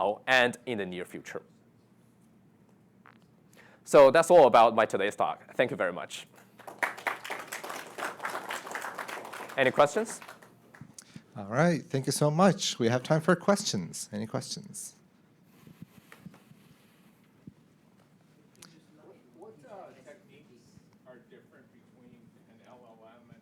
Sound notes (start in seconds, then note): 6.5 audience applauding